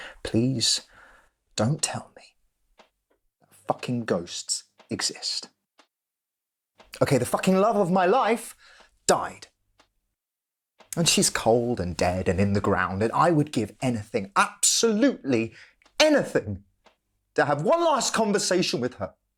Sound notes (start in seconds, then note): none